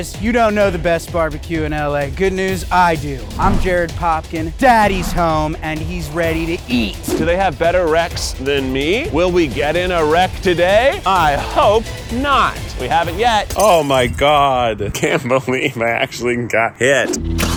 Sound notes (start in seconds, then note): 13.5 glass shattering; 17.4 engine starts